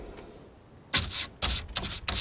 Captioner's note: scratching